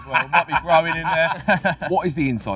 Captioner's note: laughter